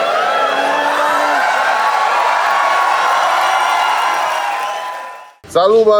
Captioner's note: crowd applauding